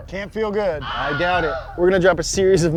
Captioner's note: shrieks